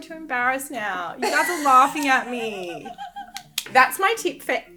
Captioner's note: laughing